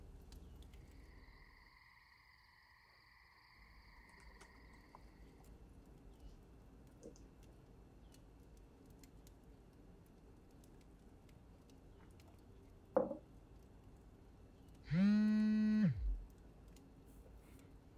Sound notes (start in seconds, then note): 0.6 crickets chirping; 14.9 phone buzzing